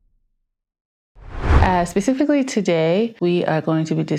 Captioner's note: text thumping; air whooshing